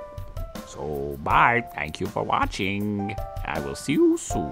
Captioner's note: dubbed Male Voice